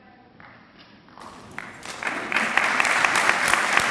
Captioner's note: clapping